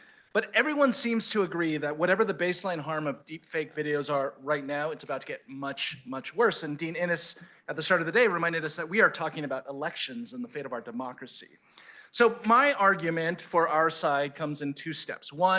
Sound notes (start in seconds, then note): none